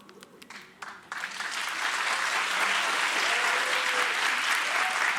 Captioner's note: audience applauds